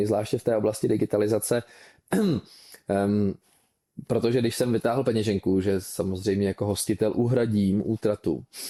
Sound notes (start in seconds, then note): 2.1 clears throat